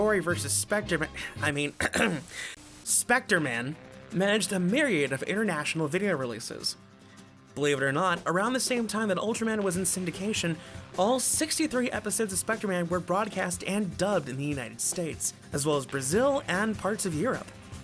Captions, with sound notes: GORI VS SPECTREMA- *Sighs* *clears throat* SPECTREMAN... managed a myriad of international video releases. Believe it or not, around the same time that ULTRAMAN was in syndication... all 63 episodes of SPECTREMAN were broadcast and dubbed in the United States. as well as Brazil, and parts of Europe.